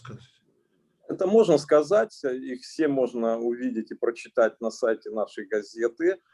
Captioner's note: speaking Russian language